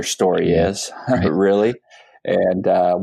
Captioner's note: laughs